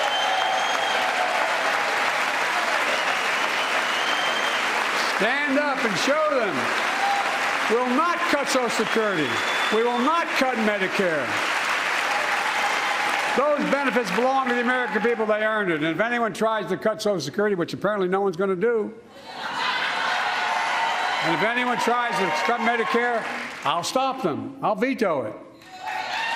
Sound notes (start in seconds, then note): 6.0 cheers and applause